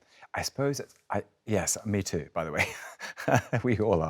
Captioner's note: chuckles